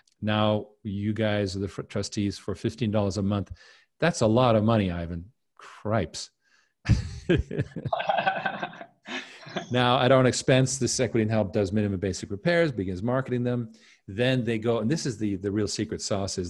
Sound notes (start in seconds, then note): 6.9 chuckling; 7.2 laughing